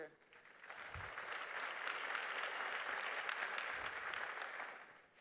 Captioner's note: applause